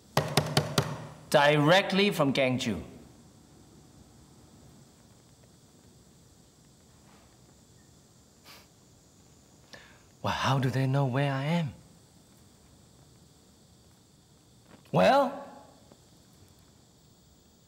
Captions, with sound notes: (finger tapping) Directly from Ganzhou? (scoffs) Well, how do they know where I am? Well?